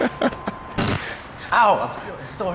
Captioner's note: laughter